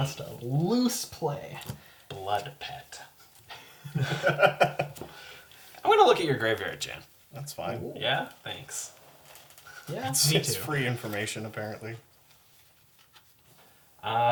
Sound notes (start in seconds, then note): 3.6 laughs